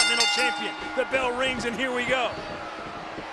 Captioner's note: bell rings